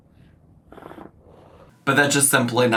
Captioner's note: smoke puffing